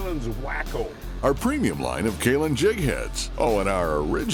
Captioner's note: voiceover